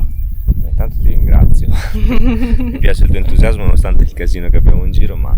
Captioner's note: laughter